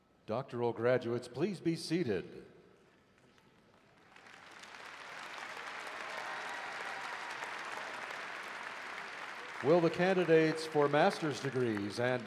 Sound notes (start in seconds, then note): 3.2 applause